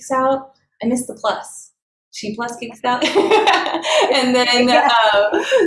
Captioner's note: laughs